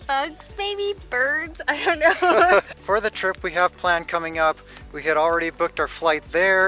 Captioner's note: laughter